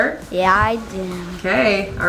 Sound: mumbles

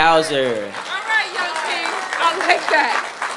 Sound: applause

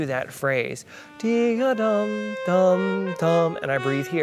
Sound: he hums

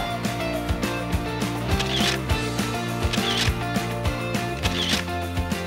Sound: camera clicking

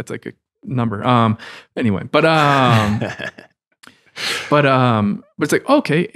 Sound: friars laughing

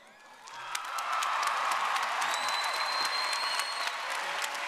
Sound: audience cheering

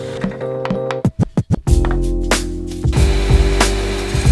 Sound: tapping; saw grinding

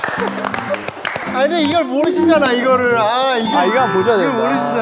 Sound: pfft

